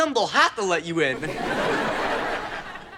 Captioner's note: audience laughter